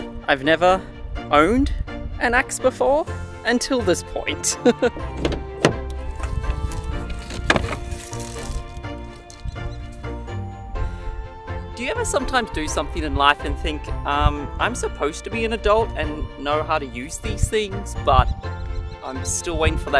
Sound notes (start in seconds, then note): 4.6 giggles; 4.9 doors click open; 8.4 joyful strings music continues